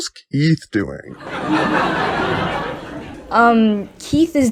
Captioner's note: audience laughs